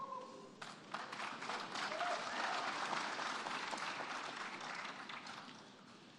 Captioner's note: applause